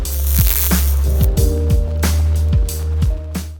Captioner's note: electricity crackles; mellow music